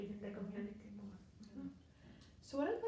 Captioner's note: speaking faintly